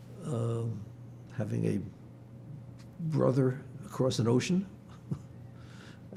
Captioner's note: laughing